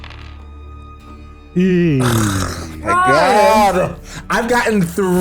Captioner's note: various noises of disappointment